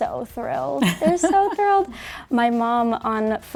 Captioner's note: laughing